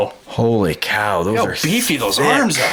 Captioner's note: voiceover